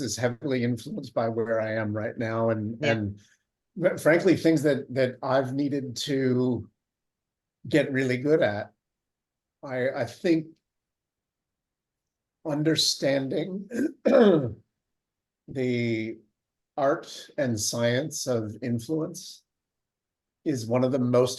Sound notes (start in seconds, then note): 13.6 cougs